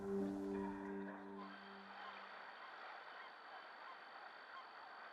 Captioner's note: birds squawking